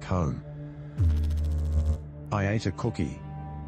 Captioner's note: electrical noise